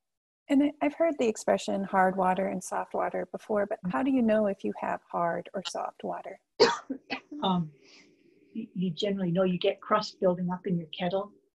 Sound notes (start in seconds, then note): 6.6 cough